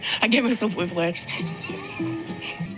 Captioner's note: chuckles